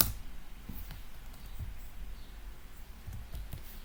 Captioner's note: typing noise